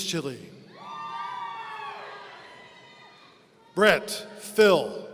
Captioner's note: audience cheering